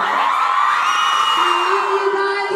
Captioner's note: fans scream